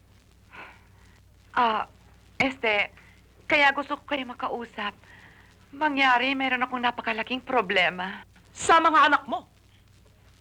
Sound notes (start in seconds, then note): none